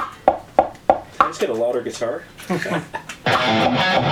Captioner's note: laughs